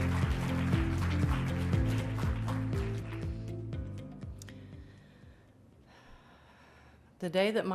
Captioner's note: applause